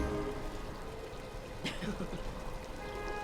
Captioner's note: all chuckle